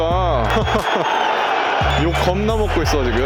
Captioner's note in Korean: 웃음